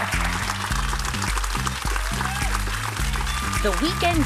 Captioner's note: applause